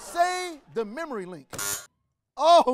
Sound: buzzer rings

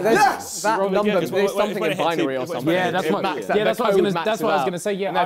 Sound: crowd mumbling

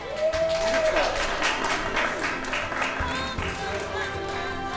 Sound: audience applauds

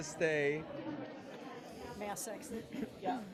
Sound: people chattering

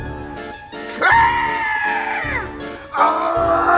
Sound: screams

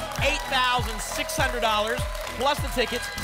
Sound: applause and cheering

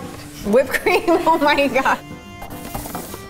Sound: laughs

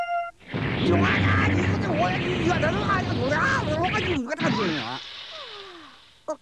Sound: electrocution yells

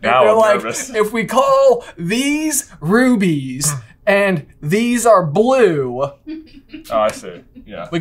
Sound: laughing in background

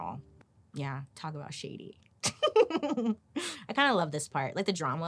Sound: laughing

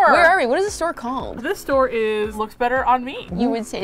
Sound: playfully offended

